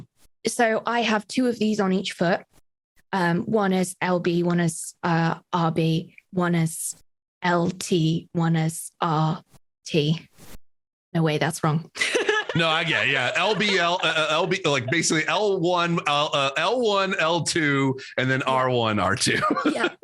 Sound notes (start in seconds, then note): 12.0 laughs